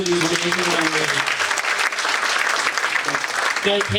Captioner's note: audience applauds